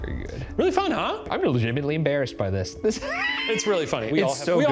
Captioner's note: laughing